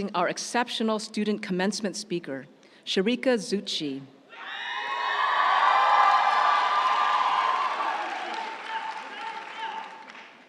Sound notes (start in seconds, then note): 4.4 audience cheering; 5.2 audience applauding